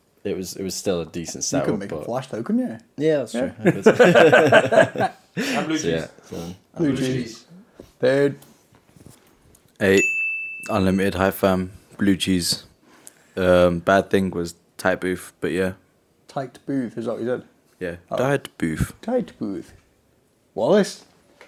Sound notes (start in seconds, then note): 3.5 group laughing; 9.9 bell dinging